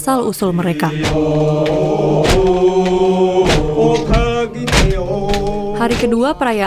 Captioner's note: chanting